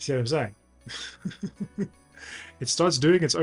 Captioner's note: laughs